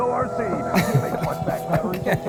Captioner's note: chuckling